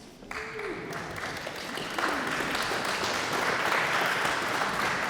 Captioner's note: audience applauds